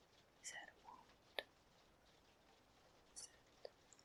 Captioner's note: whispers